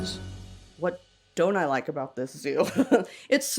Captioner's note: laughs